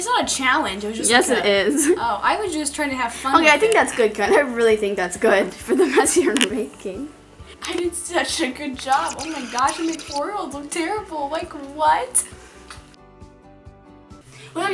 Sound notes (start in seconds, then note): 1.0 laughs